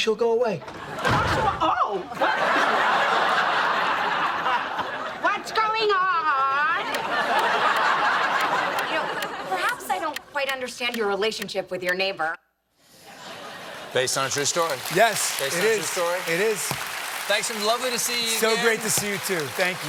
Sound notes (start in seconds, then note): 3.6 laughter